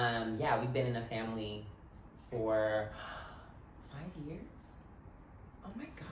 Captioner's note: gasps